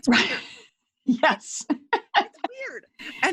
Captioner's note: laughs